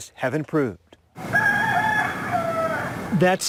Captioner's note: rooster crowing